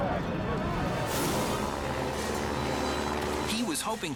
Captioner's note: engines roar